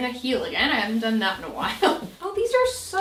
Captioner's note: laughing